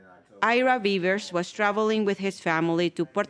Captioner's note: voiceover